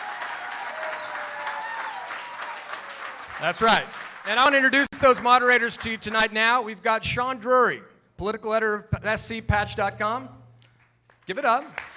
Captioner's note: cheering